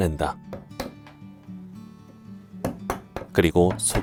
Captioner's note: chisel sound